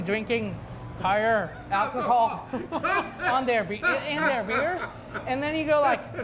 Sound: host laughing

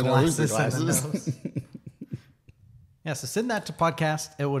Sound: laughs

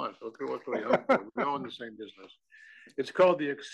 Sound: laugh

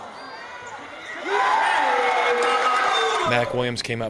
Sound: cheers

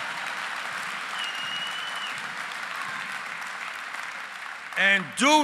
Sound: applause

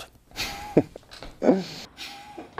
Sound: laughs

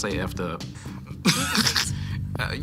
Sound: chuckles

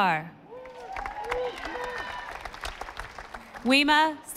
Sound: audience applauding

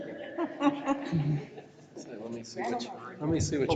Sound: laughing

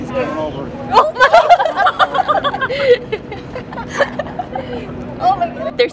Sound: audible laughing

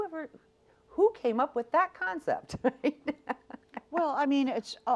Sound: laughs

